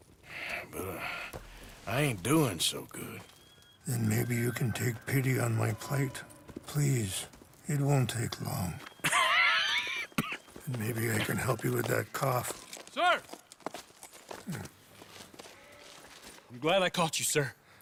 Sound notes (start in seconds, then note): 9.8 as Arthur coughs again